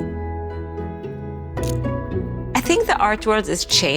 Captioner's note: bright music; camera clicking